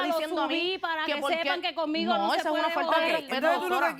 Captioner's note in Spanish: Hablan al unísono